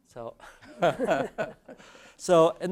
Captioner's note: laugh